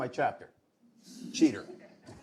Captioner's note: laughter